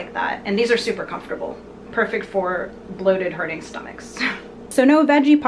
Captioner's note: laughs